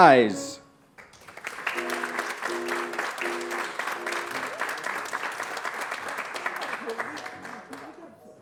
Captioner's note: applause